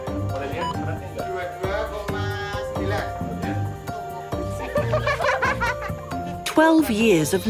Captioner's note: in foreign language; laughing